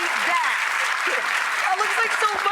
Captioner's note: applause